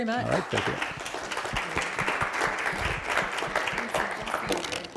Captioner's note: applause